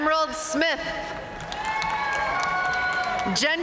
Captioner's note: audience cheering and applauding